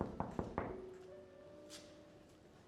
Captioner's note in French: toc-toc